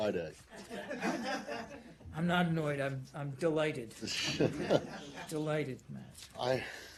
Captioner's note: laughter